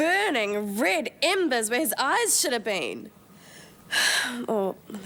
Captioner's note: sighs